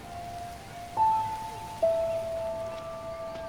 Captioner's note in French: bruissement de feuilles